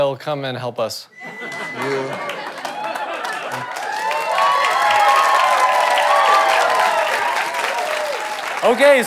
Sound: audience applause

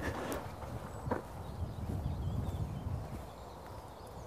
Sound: birds chirping

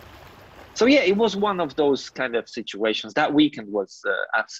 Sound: voice overlays

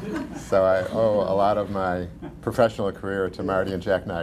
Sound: laughter

